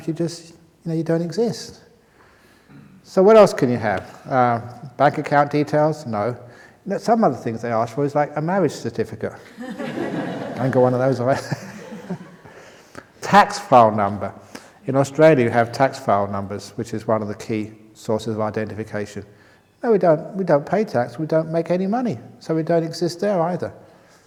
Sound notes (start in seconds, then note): 9.4 laughter